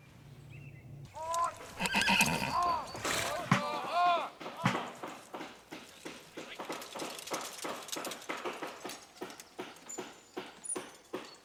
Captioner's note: horses whinny